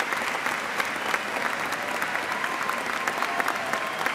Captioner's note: cheers and applause